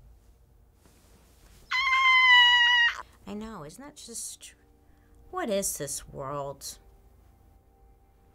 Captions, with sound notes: (screams) I know, isn't that just, what is this world?